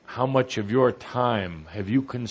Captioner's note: none